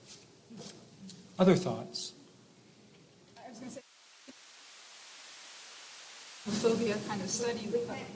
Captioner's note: silence